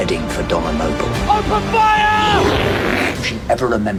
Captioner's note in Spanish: gruñidos